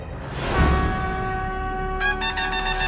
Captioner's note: conch blows